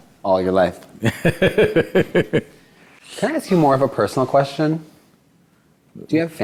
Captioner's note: Sadhguru Laughs